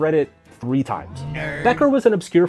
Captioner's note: disembodied Voice